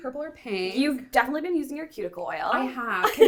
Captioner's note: laughs